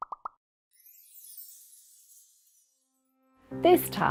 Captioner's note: typing; tinkling